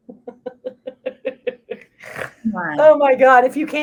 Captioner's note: both laughs